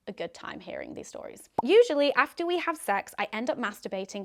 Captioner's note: popping